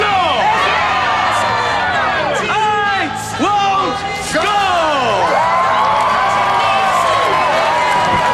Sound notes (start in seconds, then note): 1.3 crowd cheering; 5.9 crowd cheering